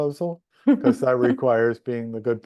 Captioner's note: laughs